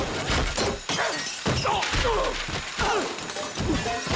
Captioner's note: all grunting